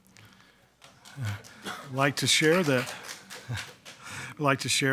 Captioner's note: attendees clapping